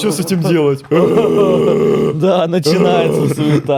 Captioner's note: zombie sounds intensify